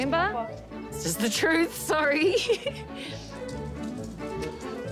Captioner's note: laughs